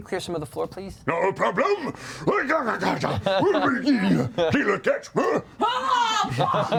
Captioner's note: grunting